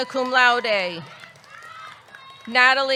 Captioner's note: audience cheering; audience clapping